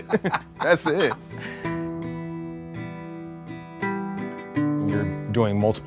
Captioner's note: Baratunde laughing